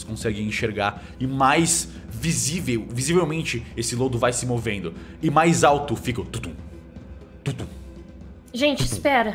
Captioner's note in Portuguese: tudum tudum